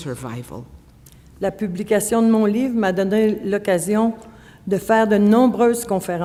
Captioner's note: speaking French